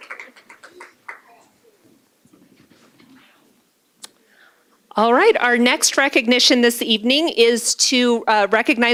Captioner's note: applause